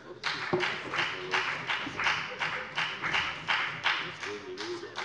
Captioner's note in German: Beifall bei der FDP